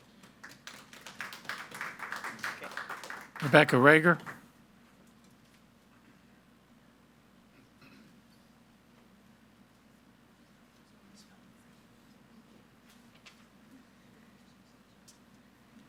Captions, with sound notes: (audience applauding) - Rebecca Raeger.